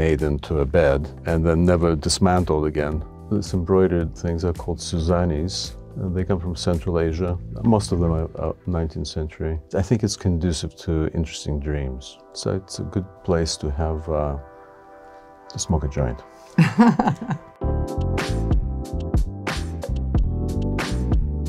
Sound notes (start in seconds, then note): 16.5 chuckles; 17.7 ambient percussive music